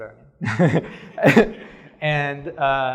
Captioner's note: laughter